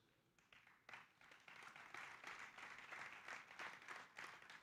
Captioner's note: audience applauding